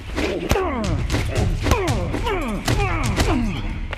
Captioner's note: Jason groaning